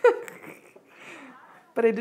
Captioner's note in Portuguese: risos